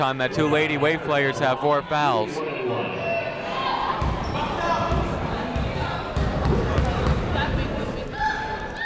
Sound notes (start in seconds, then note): 2.8 people shouting in the crowd